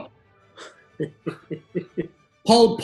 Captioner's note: chuckling